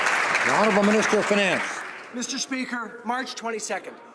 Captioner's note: some Applause